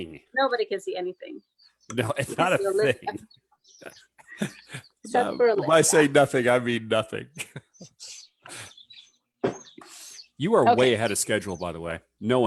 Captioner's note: laughs